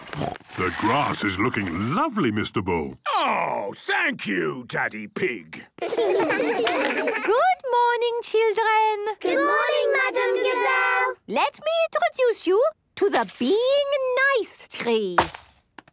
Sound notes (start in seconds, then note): 6.5 claps